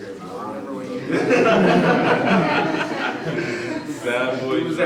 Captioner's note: everyone laughing